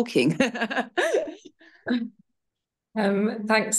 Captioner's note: laughs